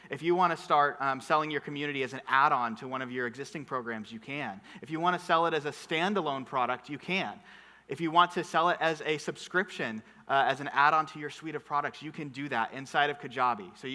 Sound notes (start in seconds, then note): none